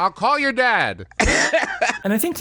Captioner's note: laughs